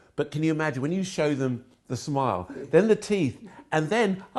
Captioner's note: none